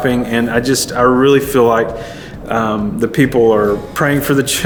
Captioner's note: none